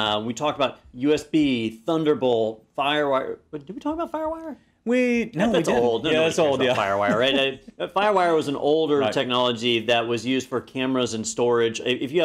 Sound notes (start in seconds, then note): 5.4 laugh